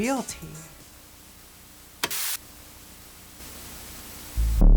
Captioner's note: static; ominous electronic music